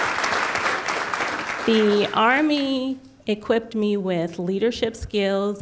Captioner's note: applause